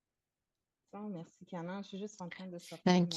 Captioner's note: speaking french